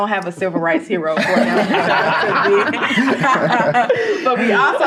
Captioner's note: all laughing